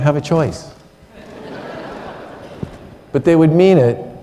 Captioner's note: laughter